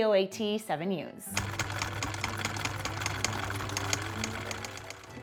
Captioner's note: machine clicking